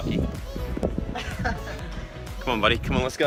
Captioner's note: laughs